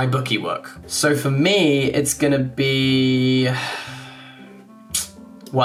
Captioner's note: sighing